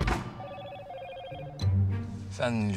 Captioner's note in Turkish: Telefon zili sesi